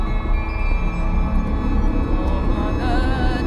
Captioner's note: dissonant ringing